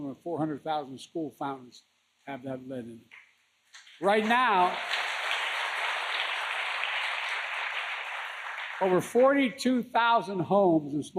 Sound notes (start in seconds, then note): 3.8 applause